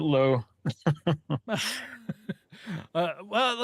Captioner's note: laughing